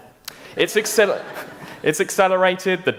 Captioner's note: laughter